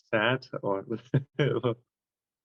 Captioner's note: laugh